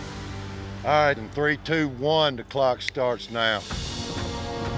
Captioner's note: snaps finger